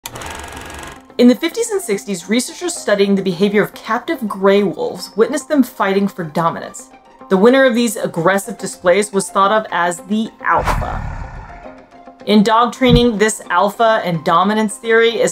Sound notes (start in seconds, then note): 0.1 film rolling sound effect; 10.5 growl sound effect